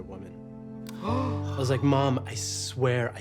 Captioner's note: Trixie gasps